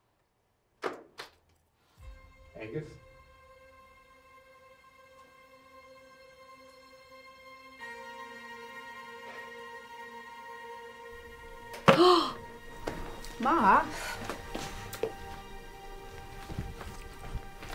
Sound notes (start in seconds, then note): 4.6 suspenseful music; 9.1 Steven sighs; 11.8 Maha gasps